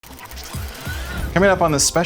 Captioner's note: mechanical whirring